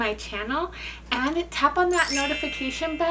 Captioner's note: graphic chimes